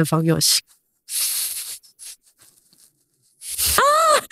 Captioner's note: laughing